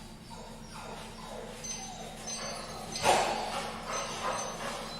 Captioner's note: dog whimpering